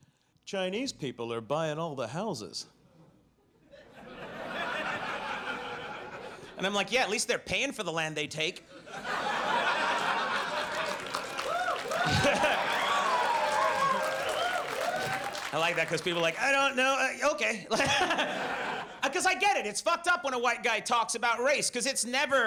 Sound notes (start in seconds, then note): 3.7 audience laughs; 8.7 audience laughs; 17.6 laughs